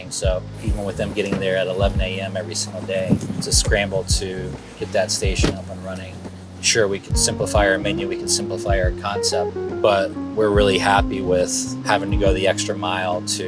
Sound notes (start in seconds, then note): 5.0 truck door slams